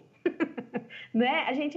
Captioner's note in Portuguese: risos